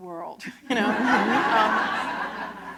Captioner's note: laughter